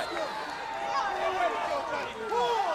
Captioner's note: crowd chatter